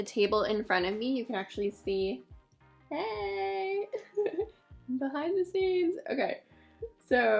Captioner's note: laughs